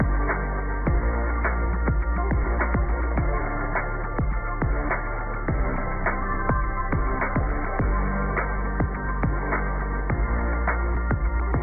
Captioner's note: cheers and applause